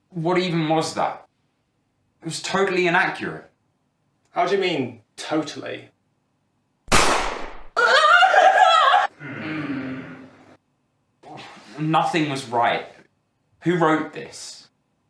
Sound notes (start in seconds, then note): 6.9 gunshot; 7.8 Otto wails